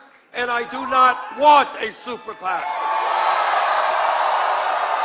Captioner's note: applause